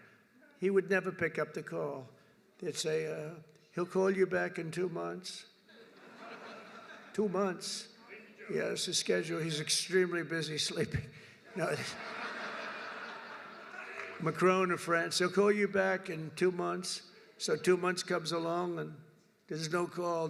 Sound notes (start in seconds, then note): 5.7 laughter; 11.5 laughter; 11.5 laughs